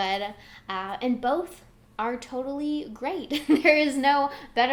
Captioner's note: giggles